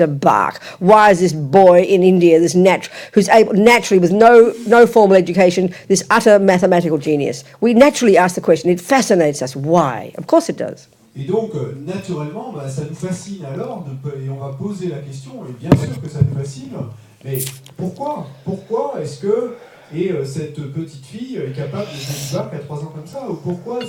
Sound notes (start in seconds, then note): 11.1 French